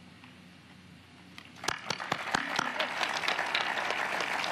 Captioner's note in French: applause